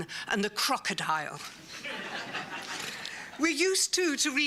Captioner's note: laughter